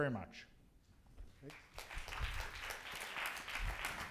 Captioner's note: applause